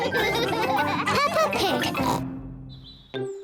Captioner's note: all laugh; snorts